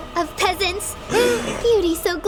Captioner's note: group gasps